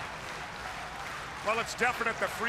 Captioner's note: crowd cheering